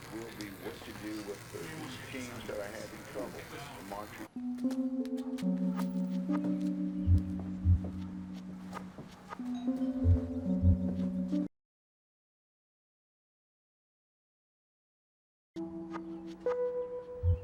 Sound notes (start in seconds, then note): 10.3 doorbell ringing